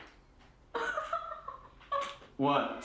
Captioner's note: Cathy laughing